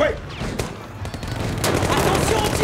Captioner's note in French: Bruit de coups de feu